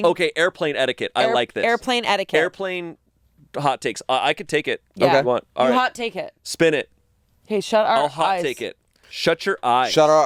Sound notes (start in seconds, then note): none